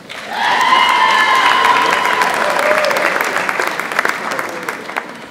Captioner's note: audience applauds and cheers